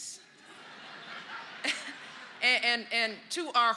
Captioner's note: laughter